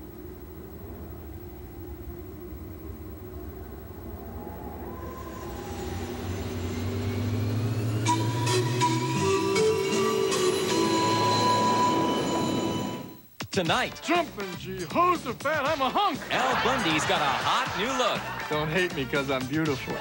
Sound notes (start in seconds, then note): 5.3 plane taking off